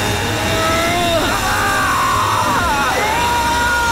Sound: screaming

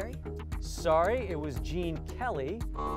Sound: buzzer

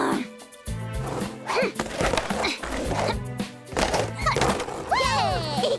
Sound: grunting

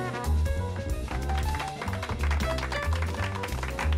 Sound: aplausos

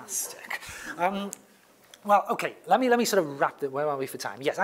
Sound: laugh

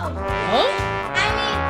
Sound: none

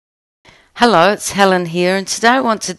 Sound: voiceover

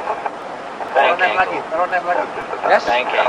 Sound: bank Angle Warning

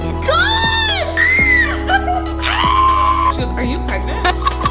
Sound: screaming

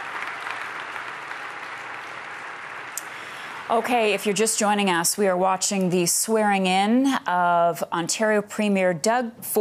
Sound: cheers and applause

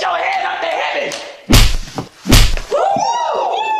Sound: slap

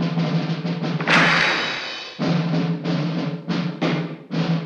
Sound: crash

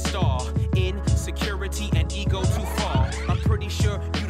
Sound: tape warbling

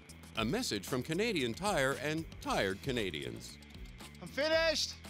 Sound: voiceover

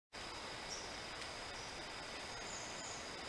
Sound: birds chirping

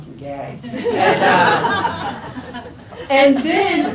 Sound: people laugh

